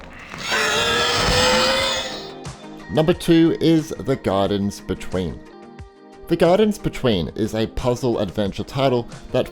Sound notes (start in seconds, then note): 0.1 growling